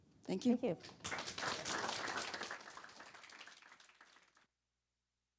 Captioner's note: audience applause